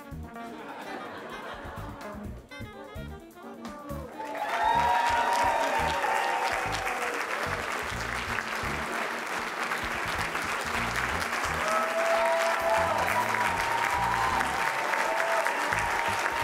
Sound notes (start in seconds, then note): 0.4 laughter; 3.7 cheering